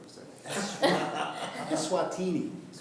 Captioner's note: laughing